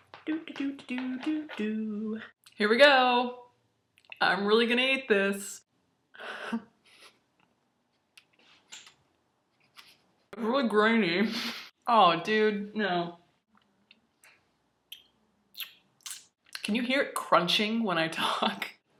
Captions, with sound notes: do-doo do-doo doo-doo doooo! Here we go! I'm really gonna eat this! *laughs quietly* It's really grainy. Aw, dude, no. *lip smacking* Can you hear it crunching when I talk?